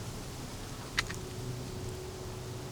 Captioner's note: mouth clicking